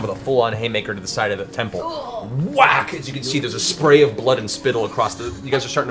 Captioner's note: whack